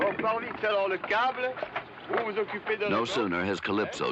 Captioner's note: speaking french